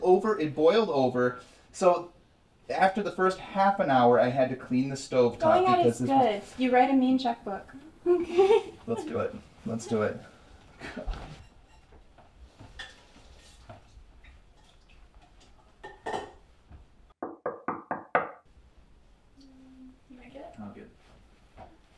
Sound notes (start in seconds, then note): 7.9 laugh; 17.2 door knocking